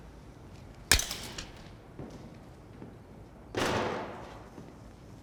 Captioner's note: knife clacks